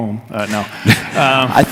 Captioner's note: laughs